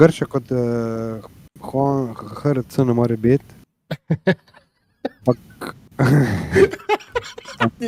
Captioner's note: laughs